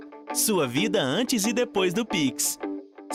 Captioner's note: non-english speech